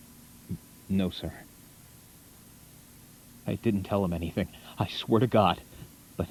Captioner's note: none